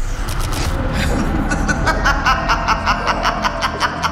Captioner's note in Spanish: Risa maniática